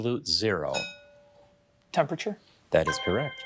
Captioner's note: bell dinging